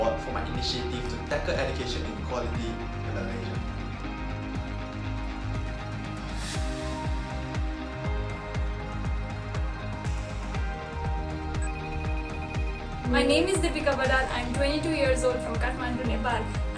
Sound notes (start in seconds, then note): 11.6 phone rings